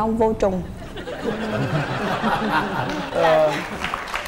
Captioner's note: laughing